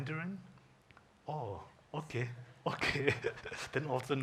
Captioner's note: chuckles